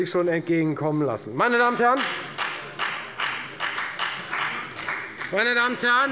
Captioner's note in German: Beifall bei der FDP